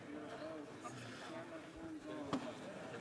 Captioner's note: speaking French